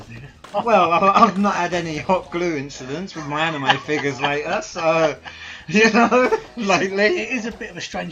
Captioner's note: both laugh